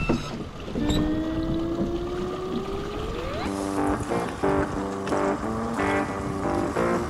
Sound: lever squeaking; upbeat music

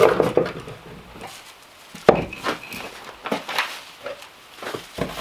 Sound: rocks thumping and scraping

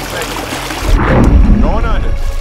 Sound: water gushing

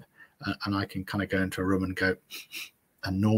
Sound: sniffs

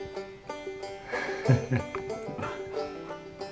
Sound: laughing

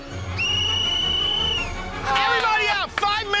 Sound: whistle blows

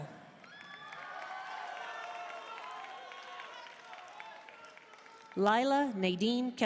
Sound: audience cheering and applauding

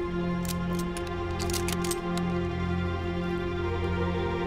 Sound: men cocking guns

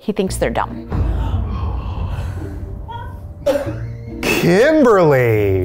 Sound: gasp

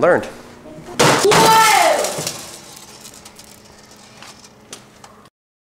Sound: metal thudding

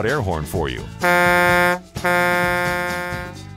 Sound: big truck air horn

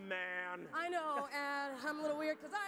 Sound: audience laughs

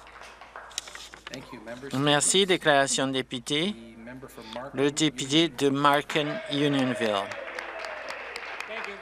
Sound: some Applause

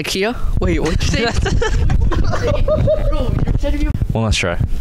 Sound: laughing

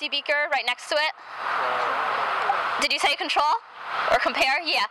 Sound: crowd mumbles

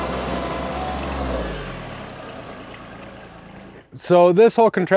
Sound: engine stopping

